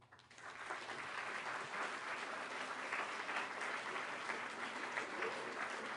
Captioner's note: applause